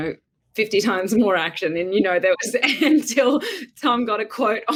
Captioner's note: laughs